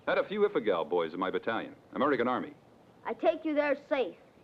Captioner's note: none